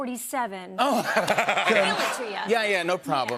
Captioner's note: laughter